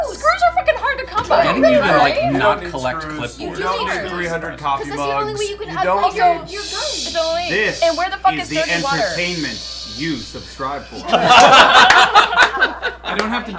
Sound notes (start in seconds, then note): 7.0 shushing noises; 10.8 laughter